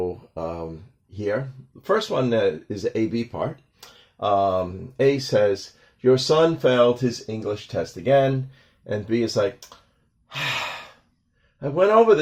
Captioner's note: sigh